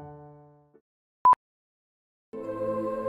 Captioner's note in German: piep